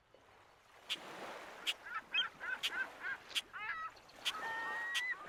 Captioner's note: seagulls chattering